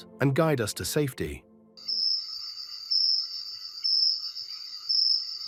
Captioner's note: crickets chirping